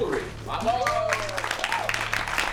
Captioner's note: cheers